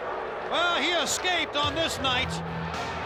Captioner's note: crowd cheering